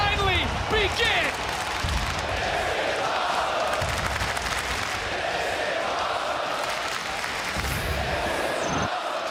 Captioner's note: crowd chant "This Is Awesome"